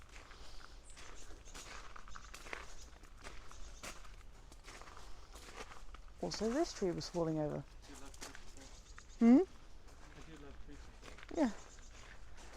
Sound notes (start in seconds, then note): 0.8 bird chirps